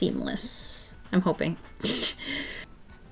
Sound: short laugh

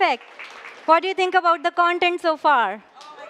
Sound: applause

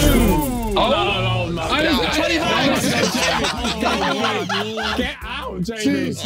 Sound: laughing

